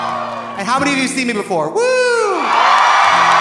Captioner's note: audience cheering; Trixie cheers; audience applauding; audience cheering